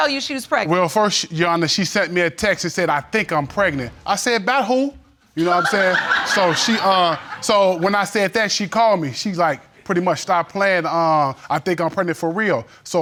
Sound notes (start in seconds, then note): 5.4 audience titters